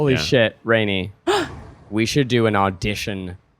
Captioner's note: gasping